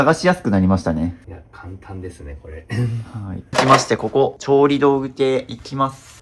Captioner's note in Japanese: 咳払い